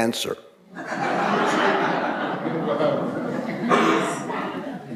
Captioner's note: audience laughing